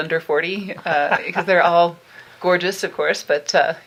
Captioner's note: laughing